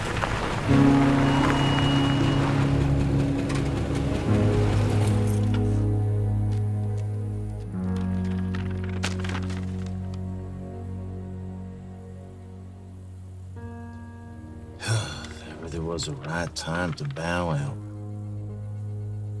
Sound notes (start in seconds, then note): 14.8 sighs